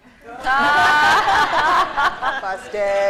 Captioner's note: laughter